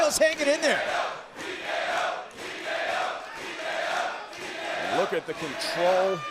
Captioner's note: crowd cheering